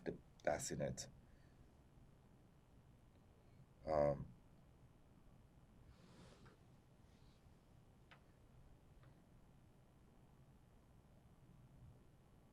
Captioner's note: pauses 11 seconds